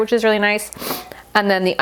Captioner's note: blows nose